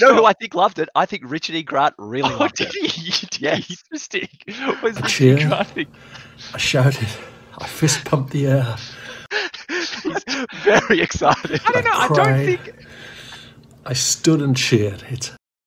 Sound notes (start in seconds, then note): 2.2 both laughing; 4.7 laughter continues; 8.5 laughter continues